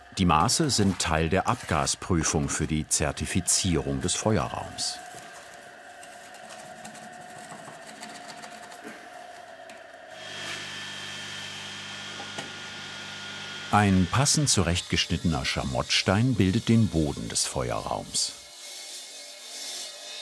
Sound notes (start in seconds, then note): 6.3 quiet rattling; 9.6 loud humming of the machine; 18.5 machine whirring